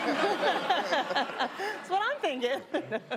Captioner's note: laughter